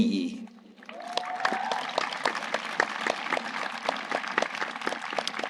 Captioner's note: audience applauding